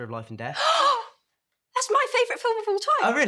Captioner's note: gasps